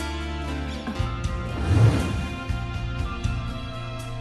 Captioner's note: whoosh sound